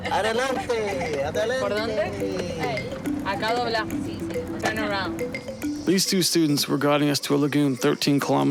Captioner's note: speaking Foreign Language